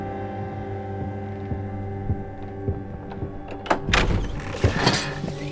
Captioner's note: gentle suspenseful music; footsteps thumping